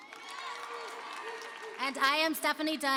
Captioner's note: applause and cheering